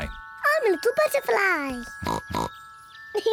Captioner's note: snorts